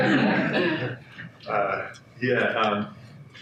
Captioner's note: audience laughs